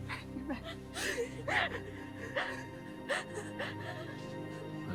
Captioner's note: crying